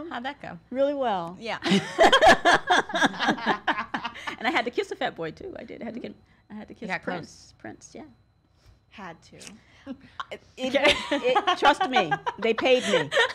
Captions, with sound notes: - How'd that go? - Really well. - Yeah. (all laugh) - And I kiss a Fat Boy, too, I did. I had to kiss Prince, yeah. - Had to. - Trust me, they paid me.